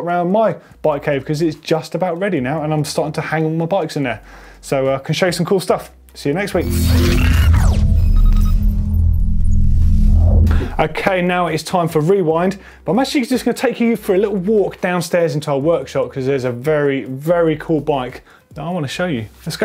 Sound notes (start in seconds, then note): 6.5 electronic beeping